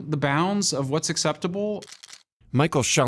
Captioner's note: cameras clicking